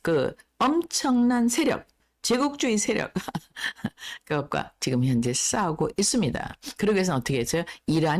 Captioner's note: laughs